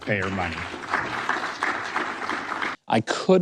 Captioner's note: audience applauding